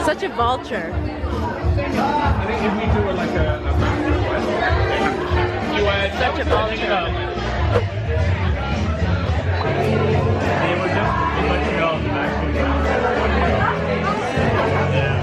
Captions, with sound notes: Such a vulture. (crowd talking) Such a vulture. (crowd talking)